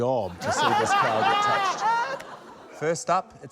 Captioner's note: laughter